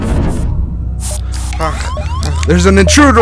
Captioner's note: heavy breathing